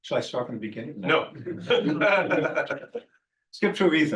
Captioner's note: laughing